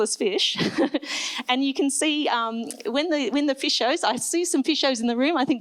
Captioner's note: laughs